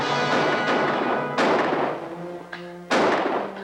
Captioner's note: upbeat music; guns firing